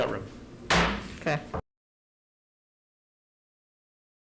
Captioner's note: gavel bangs